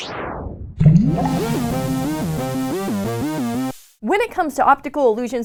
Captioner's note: rhythmic tones